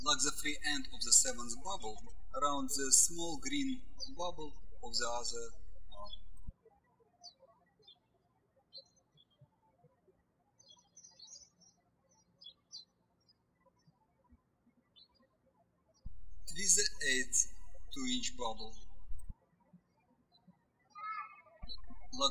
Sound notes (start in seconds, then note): 6.5 birds chirping